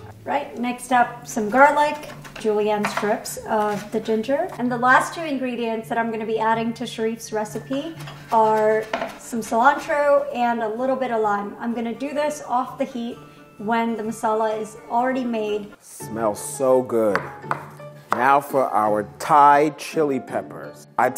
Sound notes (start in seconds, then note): 17.1 chopping cilantro